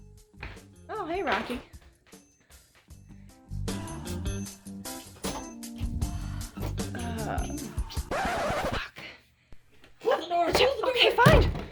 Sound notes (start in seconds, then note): 7.8 record scratch